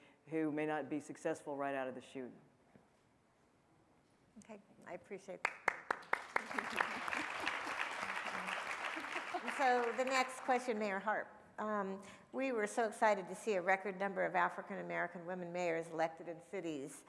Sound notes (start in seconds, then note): 5.5 panel and audience applauding